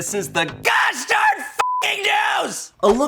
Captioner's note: beep